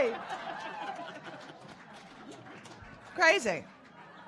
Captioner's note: audience laughing